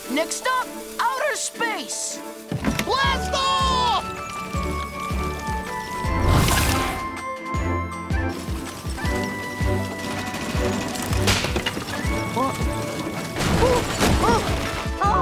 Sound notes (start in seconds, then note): 4.5 upbeat music; 6.7 spaceship rattling; 11.3 wing snaps; 15.0 Steven exclaiming